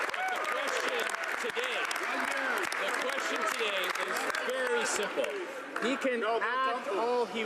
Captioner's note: some Applause